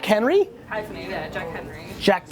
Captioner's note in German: Voice-over